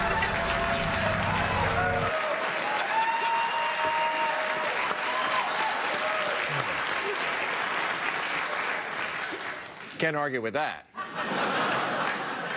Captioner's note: laughter